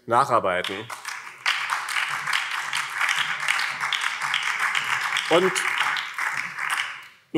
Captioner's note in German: Beifall BÜNDNIS 90/DIE GRÜNEN